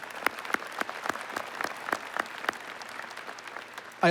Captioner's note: applause